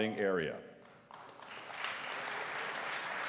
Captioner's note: applause